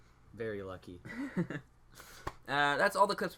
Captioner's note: laughs